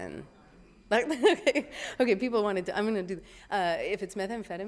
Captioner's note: laughing